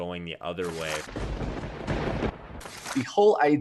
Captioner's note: thunder cracks